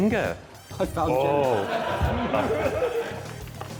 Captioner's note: laughter